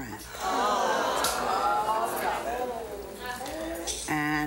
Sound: audience clamors

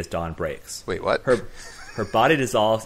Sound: laugh

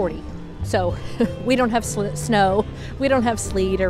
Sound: chuckling

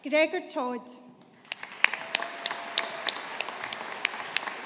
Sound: audience applauding

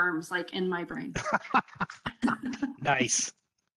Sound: both laughing

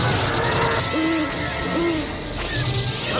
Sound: lasers firing; hooting; lasers firing

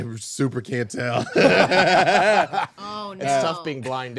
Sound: group laughing

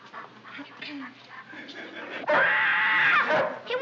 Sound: barking

